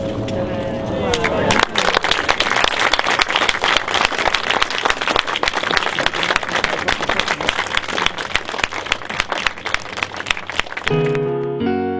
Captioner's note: applause